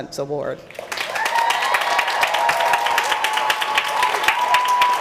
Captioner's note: applause